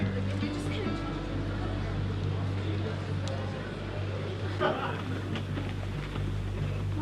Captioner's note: people chattering; soft music